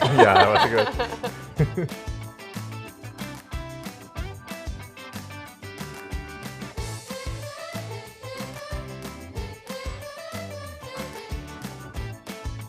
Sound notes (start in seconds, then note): 0.0 laughing; 3.0 upbeat music